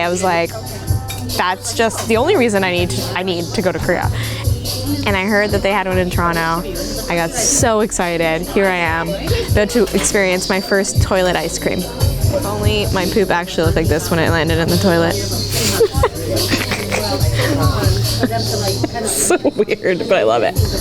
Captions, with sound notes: I was like, that's just the only reason I need to go to Korea. And I heard that they had one in Toronto. I got so excited. Here I am, about to experience my first toilet ice cream. If only my poop actually looked like this when it landed in the toilet. (laughs) It's so weird, but I love it.